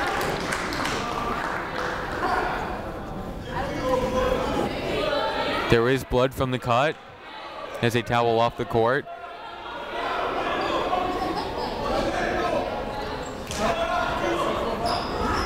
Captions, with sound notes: (crowd applauding) (people shouting in the crowd) There is blood from the cut as they towel off the court. (people shouting in the crowd)